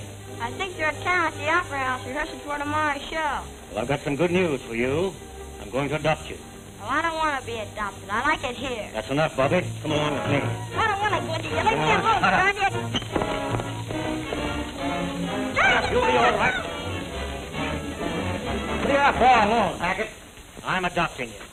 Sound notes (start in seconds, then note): 15.3 shouting